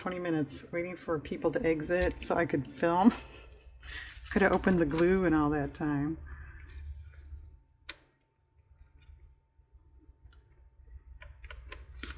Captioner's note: laughs